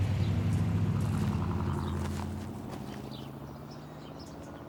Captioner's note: car rumbles